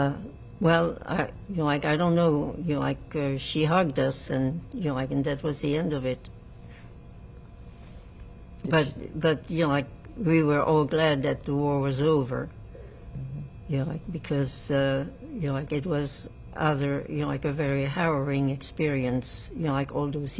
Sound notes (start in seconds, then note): none